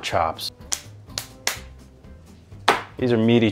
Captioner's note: hands slapping